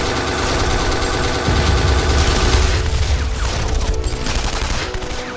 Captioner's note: explosion booms